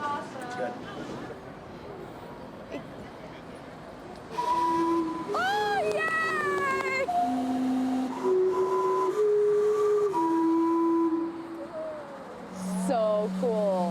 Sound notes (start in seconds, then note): 4.3 clock whistles; 5.7 claps; 7.7 clock continues whistling